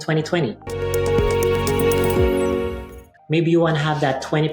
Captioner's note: gentle chime